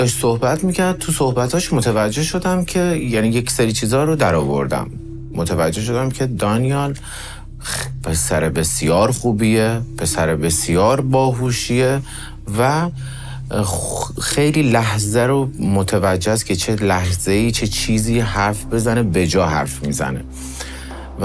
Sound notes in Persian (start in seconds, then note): 7.5 صدای خرناس